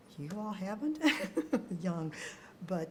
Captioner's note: both laughing